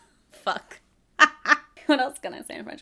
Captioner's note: laughs